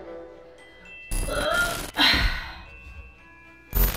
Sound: grunts

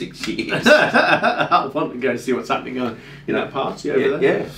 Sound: laughing

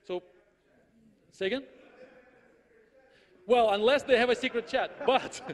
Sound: listens to audience member speaking inaudibly, then audience laughs

